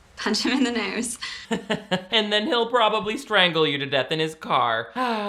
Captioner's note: laughs